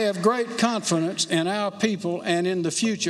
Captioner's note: applause